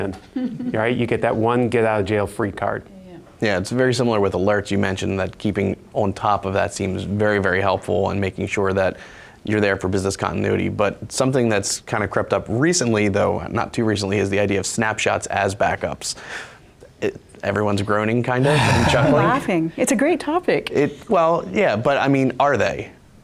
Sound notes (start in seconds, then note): 18.4 groaning